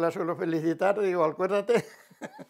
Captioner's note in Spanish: ríe